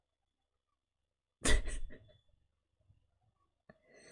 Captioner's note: laughs